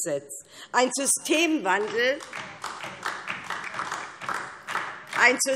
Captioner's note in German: Beifall DIE LINKE